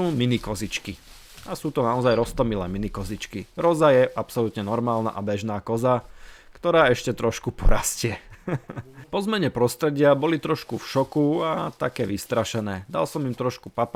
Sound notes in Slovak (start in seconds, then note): 8.1 smiech